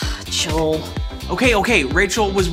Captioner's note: sighs